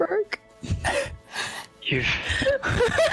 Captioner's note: laughs; giggles